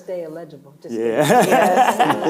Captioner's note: laughing